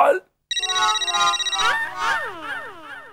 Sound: phone ringing

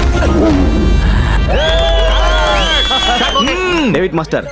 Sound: hooting

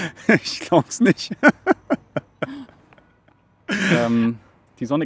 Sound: laughing

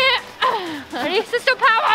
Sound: grunts

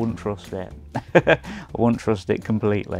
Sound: chuckles

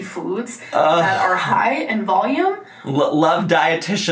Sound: groaning

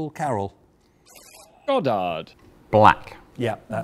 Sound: buzzer buzzes

